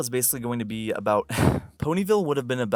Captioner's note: exasperated sigh